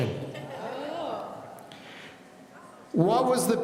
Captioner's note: laughing